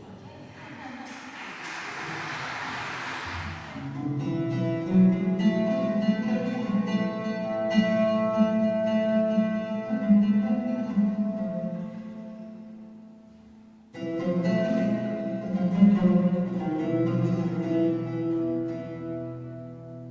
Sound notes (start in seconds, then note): 0.5 applause